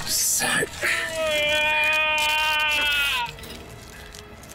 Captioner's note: screams